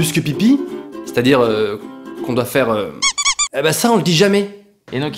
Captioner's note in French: pouet pouet